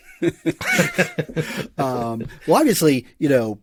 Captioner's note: laughs